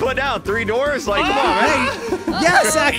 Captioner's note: hollers